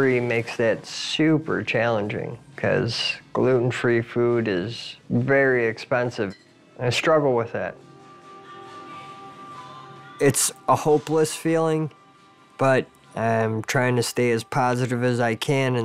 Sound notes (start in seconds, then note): none